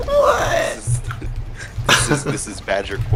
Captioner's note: choking on gefilte fish